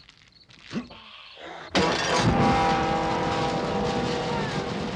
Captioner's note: whimpering